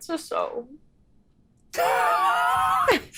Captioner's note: laughs